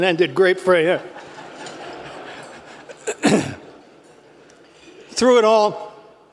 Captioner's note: laugh